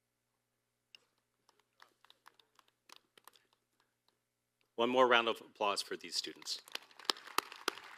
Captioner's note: applause